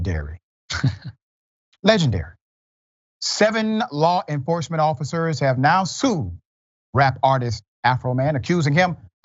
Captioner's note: laugh